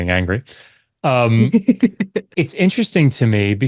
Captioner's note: laughs